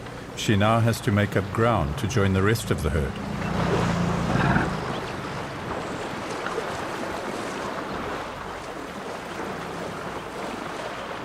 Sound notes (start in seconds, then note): 2.6 animals calling